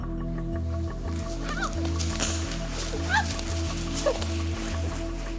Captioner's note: sparks